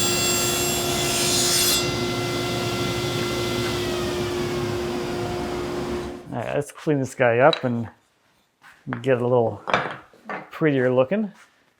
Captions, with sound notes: (shuts off saw) All right, let's clean this guy up and get it a little prettier looking.